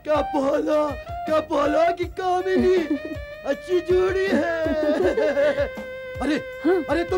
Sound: laughs

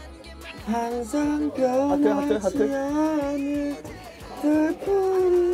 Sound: hehe

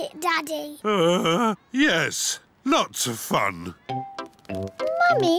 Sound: groans

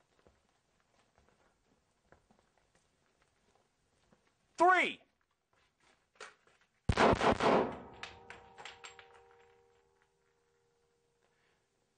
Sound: gunshots

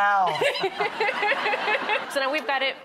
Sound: laughter

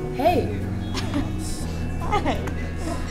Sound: laughs

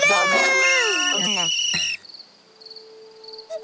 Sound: whistles

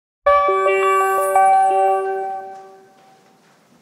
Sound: logo chiming

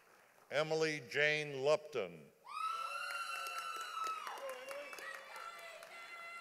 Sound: audience applauding

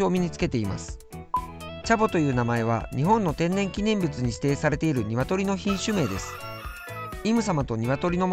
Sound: rooster

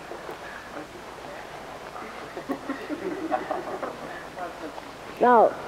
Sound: laughter

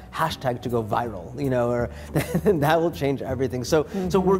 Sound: laughs

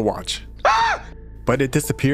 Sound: scream

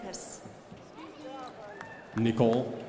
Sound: crowd applauding

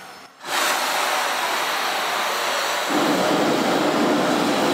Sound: hissing

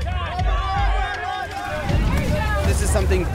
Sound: cheering

